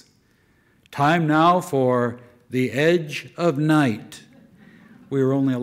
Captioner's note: loudly as announcer